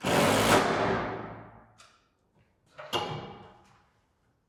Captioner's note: drill whirring